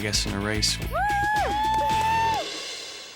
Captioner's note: women cheering